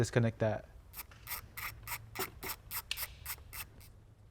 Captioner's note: screw ratcheting